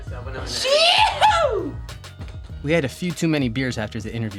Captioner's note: yells excitedly